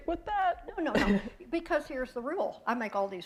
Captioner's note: chuckle